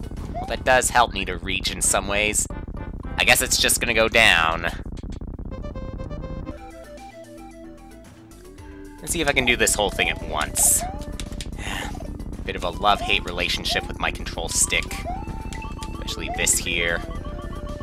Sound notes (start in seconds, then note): 11.5 sigh